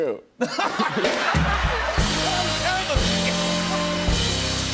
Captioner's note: laughter